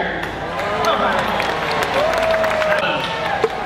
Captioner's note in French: Applaudissements